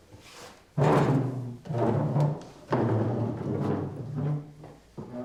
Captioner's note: chairs clattering